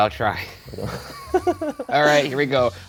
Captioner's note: laughing